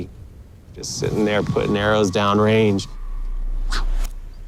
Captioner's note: whoosh